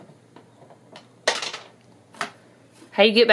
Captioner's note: treat clatters